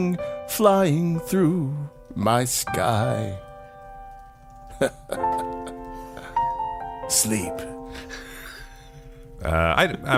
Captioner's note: chuckles; laughs